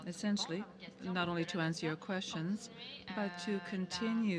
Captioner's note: speaking French